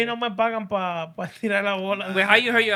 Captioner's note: speaking Spanish